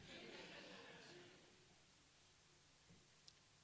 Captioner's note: audience laughs